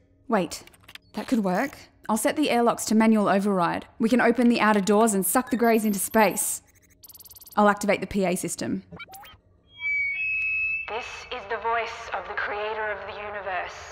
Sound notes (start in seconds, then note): 9.6 feedback